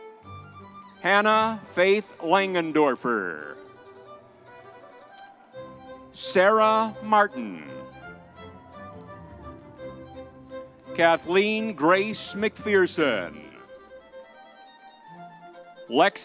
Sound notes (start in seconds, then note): 8.0 crowd cheering; 11.8 crowd cheering